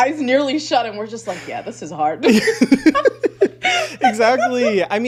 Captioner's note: laughs